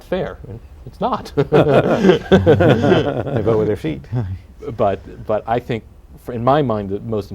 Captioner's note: laughter